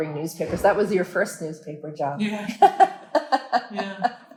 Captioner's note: laughing